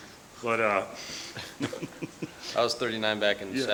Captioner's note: laughs